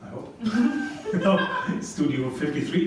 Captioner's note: laugh